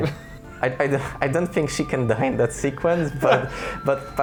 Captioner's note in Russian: смеется